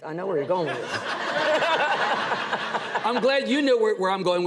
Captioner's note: audience laughs; laughs